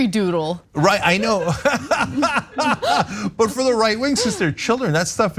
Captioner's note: laugh